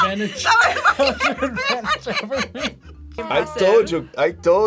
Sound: laughs

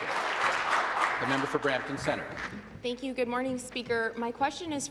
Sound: applause

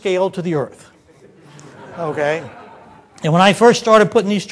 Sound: audience laughter

